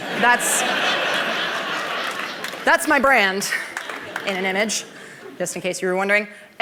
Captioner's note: laughter